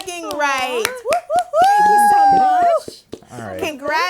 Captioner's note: cheering